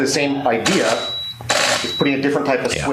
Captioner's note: mechanical shutter